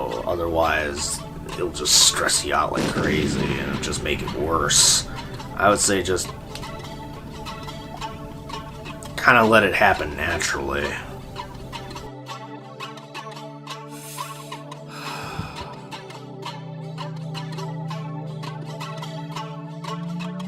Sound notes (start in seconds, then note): 14.8 inhaling